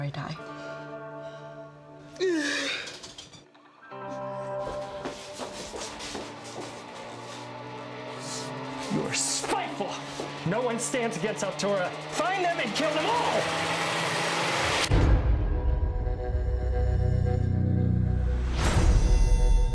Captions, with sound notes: [groaning] - You are spiteful! No one stands against Altura. Find them and kill them all! [tense music]